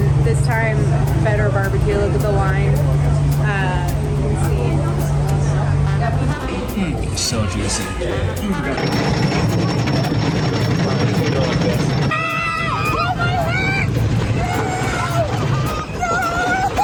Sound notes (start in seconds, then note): 8.7 rollercoaster clanking; 12.1 screaming